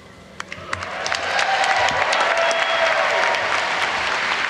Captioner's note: audience applause